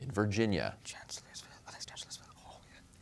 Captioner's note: whispers